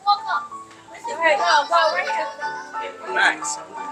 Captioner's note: noise of water